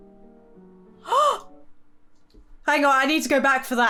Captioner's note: gasps